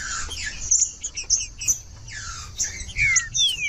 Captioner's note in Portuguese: trinca ferro cantando